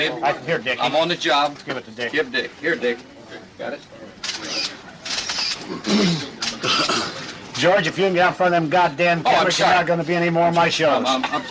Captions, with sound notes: - Here babe. I'm on the job. - Give it to Dickie. - Here Dick, got it? (cameras clicking) - George, if you're going to be out front of those goddamn cameras, you're not going to be on any more- - Sorry.